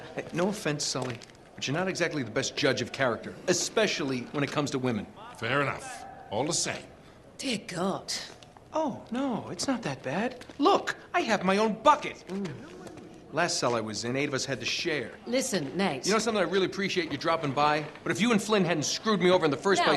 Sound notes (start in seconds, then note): 12.7 disgusted groan